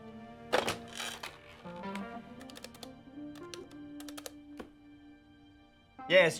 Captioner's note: gentle groovy music; phone jangling